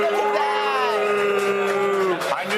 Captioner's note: applause